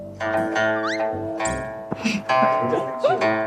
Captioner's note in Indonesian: Tertawa